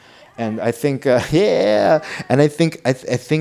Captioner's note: laughs